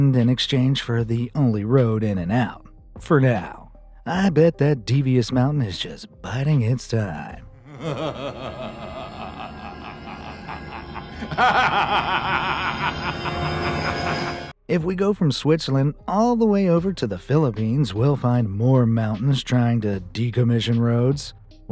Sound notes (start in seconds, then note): 7.6 devious laughter